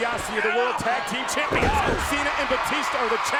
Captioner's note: body thudding